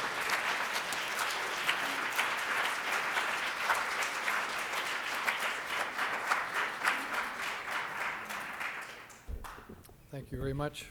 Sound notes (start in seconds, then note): 0.0 audience applauding